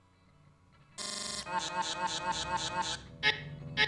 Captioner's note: obnoxious Beeping